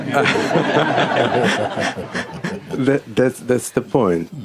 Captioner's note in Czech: smích